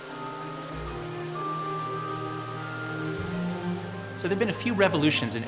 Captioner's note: buzzing